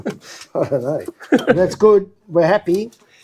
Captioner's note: laughter